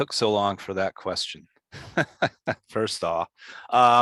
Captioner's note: chuckles